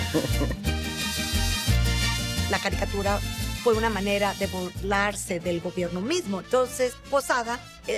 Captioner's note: laughter